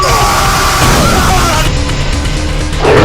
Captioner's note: war cry; slam!